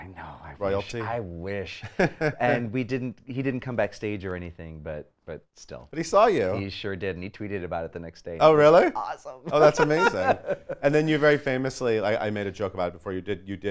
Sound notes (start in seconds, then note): 9.4 laughs